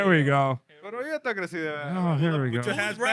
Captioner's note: speaking In Foreign Language